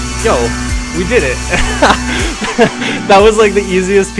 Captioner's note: laughs